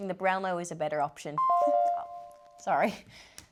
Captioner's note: phone chimes